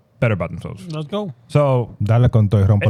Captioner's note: speaking In Foreign Language